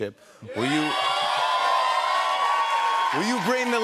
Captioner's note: cheers and applause